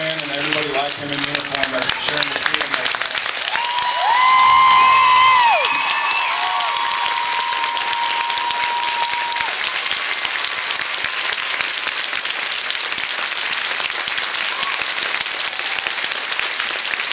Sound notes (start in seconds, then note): 3.4 cheers; 3.6 cheers and applauds